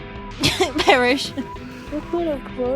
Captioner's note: laughs